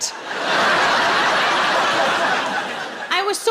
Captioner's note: audience laughing